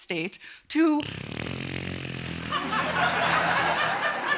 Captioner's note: loud flatulence